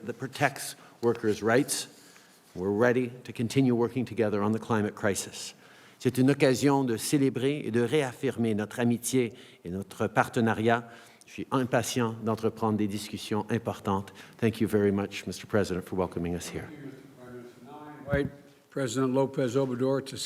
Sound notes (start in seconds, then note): 6.0 speaks in French